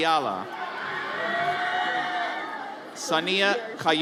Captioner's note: audience cheers